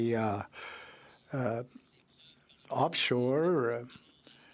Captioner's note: speaking French